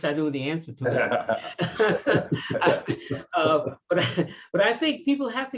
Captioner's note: all laughing